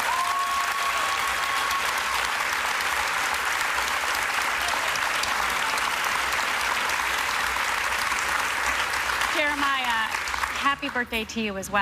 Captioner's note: applause